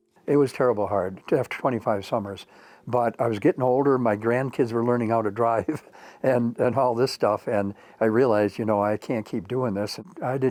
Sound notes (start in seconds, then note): 5.1 chuckles